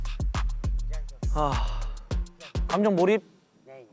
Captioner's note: sigh~